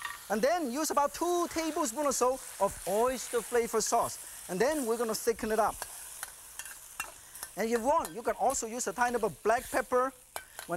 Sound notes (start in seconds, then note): none